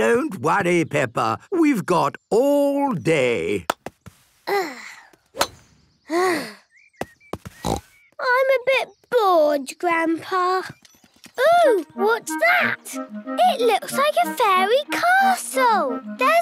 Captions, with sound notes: - Don't worry, Peppa! We've got all day! (sighs) (snort) - I'm a bit bored, Grandpa. Oh! What's that? It looks like a fairy castle!